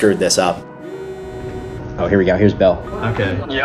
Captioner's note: phone vibrates